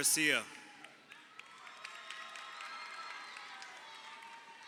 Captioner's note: crowd cheering